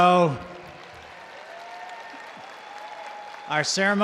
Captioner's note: attendees applauding